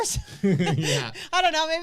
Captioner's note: laugh